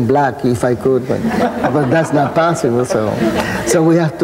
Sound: audience laughing

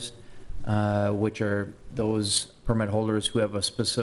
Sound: none

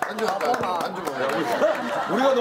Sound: Dong Yup applauds very loudly

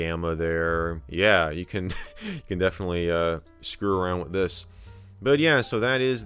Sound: laugh

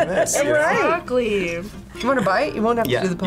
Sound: laughs

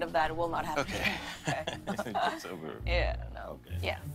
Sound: laughs

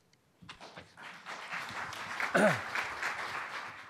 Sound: crowd clapping

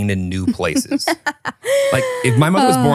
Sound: laughing

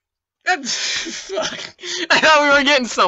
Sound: scoffs

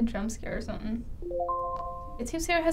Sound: chime

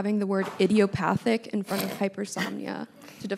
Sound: snorts

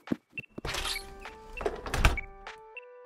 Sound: sound of door opening and closing

